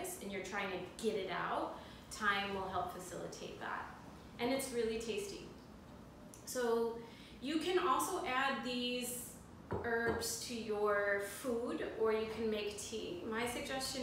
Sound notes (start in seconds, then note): none